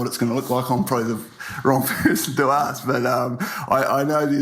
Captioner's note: laughs